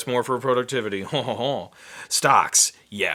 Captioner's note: chuckles